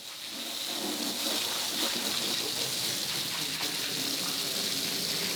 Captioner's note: water running